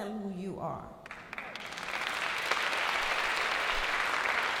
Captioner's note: applause